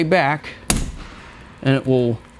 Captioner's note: handle clunks